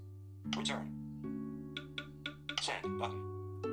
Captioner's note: iPhone ticks